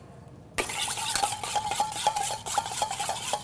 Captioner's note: whisking sound